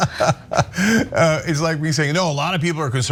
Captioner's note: laugh